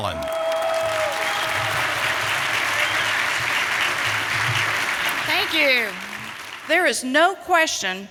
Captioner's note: applause